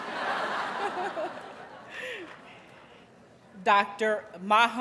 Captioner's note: audience laughs